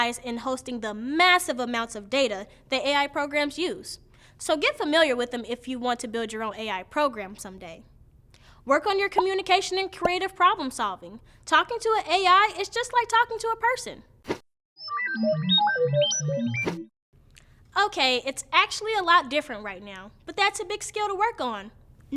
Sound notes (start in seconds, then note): 14.8 electronic beeping